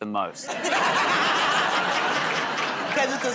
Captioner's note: laughter